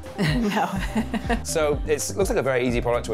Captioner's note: laughter